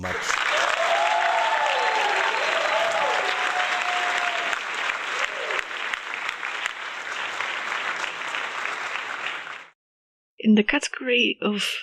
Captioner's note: applause